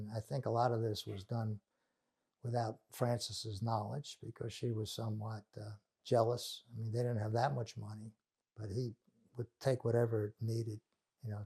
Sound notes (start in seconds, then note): none